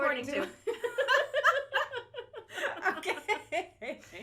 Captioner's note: laughter